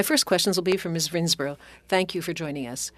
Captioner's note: speaking French